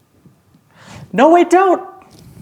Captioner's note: gasps